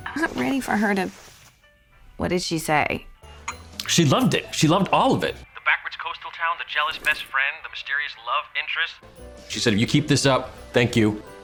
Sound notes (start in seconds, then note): none